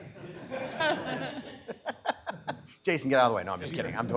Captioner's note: participants laughing